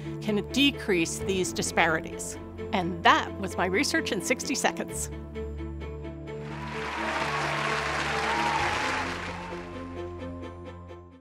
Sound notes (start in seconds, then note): 6.1 upbeat music; 6.4 crowd applauds